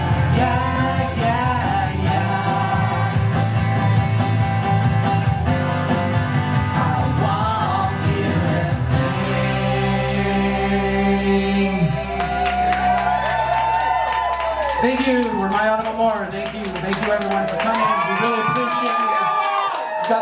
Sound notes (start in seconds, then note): 12.5 crowd cheering